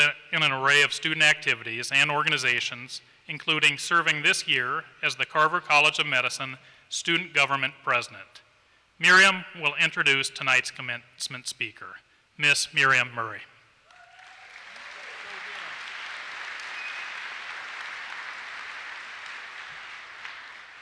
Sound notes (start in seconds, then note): 13.8 applause